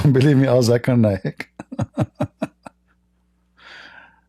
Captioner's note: Ketawa